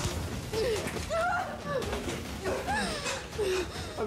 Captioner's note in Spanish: golpes; gritos